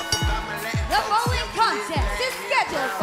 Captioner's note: bell ringing